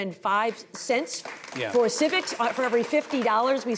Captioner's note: audience applauding